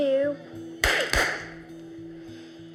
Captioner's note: popping